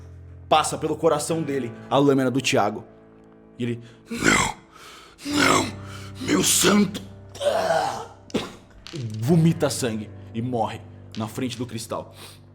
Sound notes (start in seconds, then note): 7.3 coughing blood